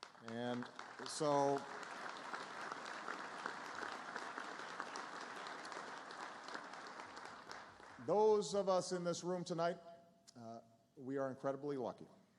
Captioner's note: applause